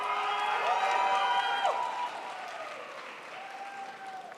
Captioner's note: crowd applauds